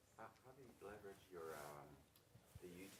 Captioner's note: voiceover